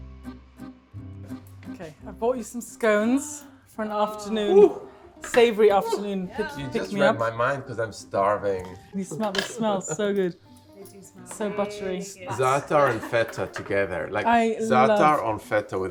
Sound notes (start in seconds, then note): 0.0 bright bouncy music; 4.5 friend gasps